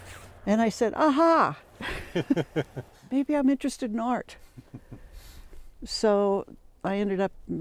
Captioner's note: laughter